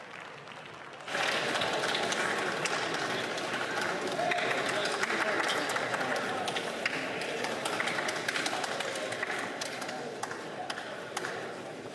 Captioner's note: some Applause